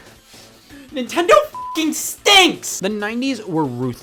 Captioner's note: beep